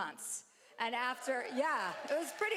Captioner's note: cheering